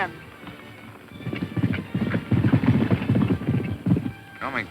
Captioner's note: galloping hooves